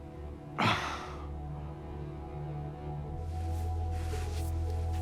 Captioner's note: suspenseful music; Chuck sighs; suspenseful music continues